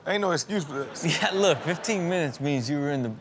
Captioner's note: chuckles